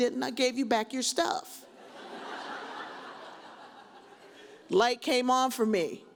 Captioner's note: audience laughs